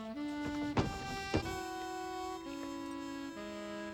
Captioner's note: clatter